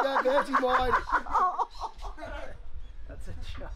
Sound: men laughing

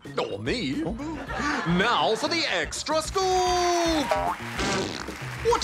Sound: laughter

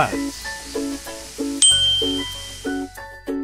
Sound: ding

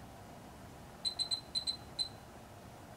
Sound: beeps

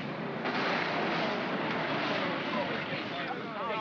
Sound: vehicles rumble

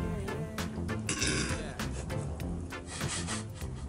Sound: laughs

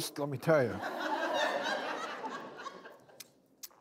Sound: laughing

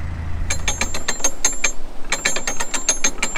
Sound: sound of lock mechanism

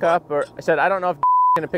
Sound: beep

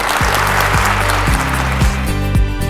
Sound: audience claps; upbeat music

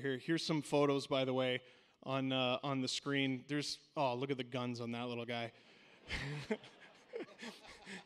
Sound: laughter

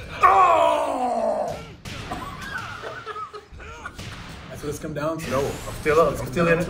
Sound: laugh

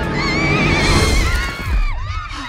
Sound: all Screaming

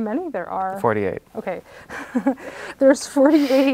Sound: laughs

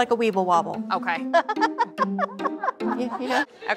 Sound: laughter

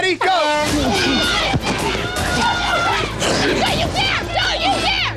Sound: on-lookers yelling

